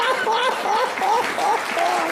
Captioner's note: laughter